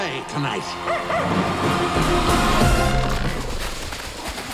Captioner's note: dog barks